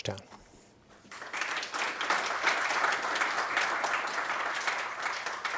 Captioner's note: attendees clapping